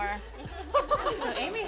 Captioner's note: laughing